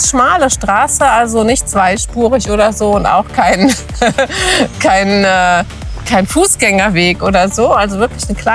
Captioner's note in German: gelächter